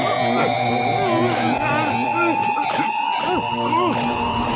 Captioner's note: muffled screaming